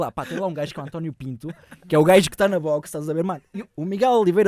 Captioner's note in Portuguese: ironia